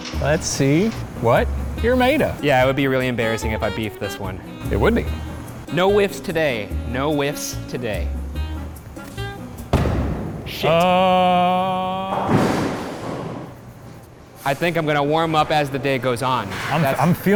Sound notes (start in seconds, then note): 9.5 ball banging